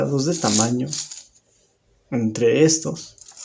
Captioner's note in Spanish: Silencio